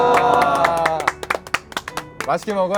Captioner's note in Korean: 기립 박수